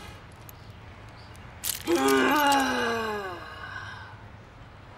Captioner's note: frustrated sigh